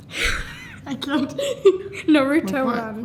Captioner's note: laughs